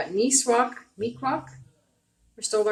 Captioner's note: speaking Abenaki